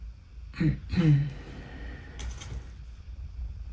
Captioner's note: coughs